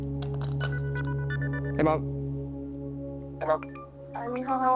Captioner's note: cellphone rings